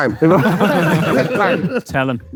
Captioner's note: group laughing